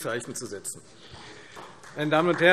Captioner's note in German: Beifall